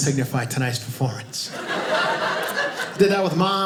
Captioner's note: audience laughing